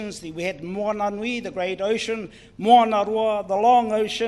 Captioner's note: speaks in foreign language